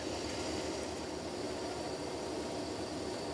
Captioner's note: whispering